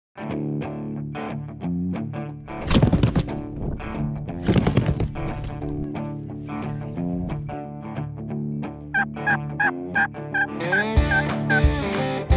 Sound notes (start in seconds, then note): 0.2 light country music; 4.3 plastic rattling; 8.9 turkey calls